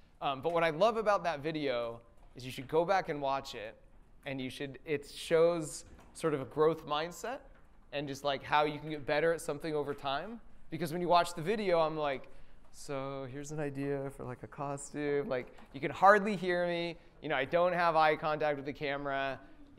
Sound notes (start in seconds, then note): 12.4 quietly